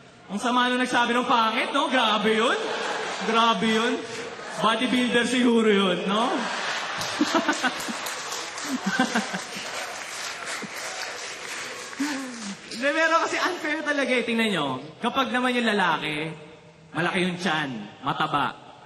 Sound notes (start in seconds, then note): 6.2 laughter, clapping; 6.2 chuckling